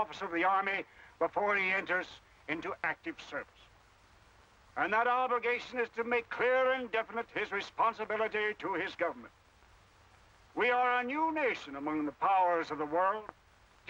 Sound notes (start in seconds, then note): none